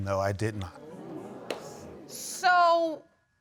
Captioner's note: audience murmuring